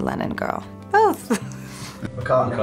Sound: laughs

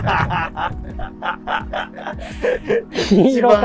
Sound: laughing

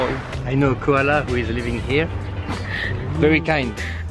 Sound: speaking in foreign language

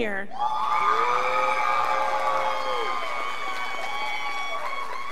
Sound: scholars applauding

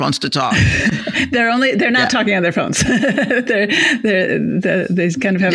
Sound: chuckles

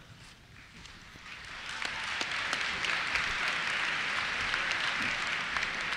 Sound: applause

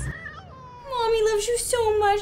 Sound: cat meows

